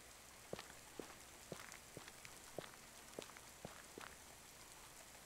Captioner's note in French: bruit de pluie qui tombe; bruit de pluie qui tombe et de pas; bruit de pluie qui tombe